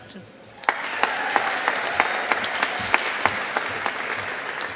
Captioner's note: audience applauding